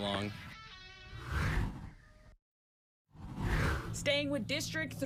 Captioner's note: air whooshes